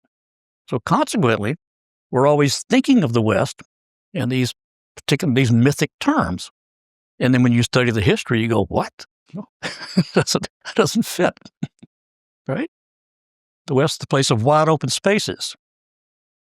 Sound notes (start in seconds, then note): 9.6 laugh